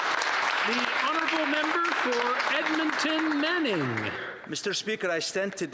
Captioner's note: some Applause